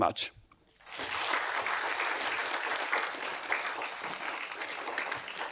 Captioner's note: audience applauding